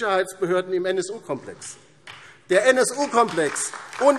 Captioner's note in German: Beifall DIE LINKE und vereinzelt SPD